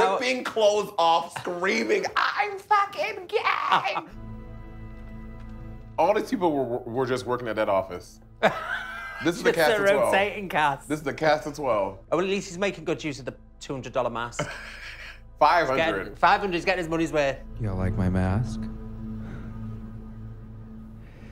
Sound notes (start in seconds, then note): 4.3 tense music; 8.4 laughing; 14.3 laughing